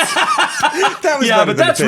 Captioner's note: laughs